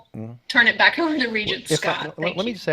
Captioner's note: chuckles